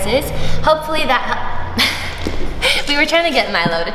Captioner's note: laughs softly